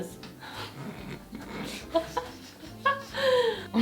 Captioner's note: laughing